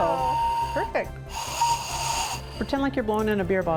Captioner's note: ghost whistle blowing